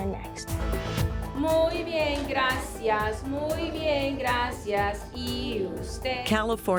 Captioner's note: speaking Spanish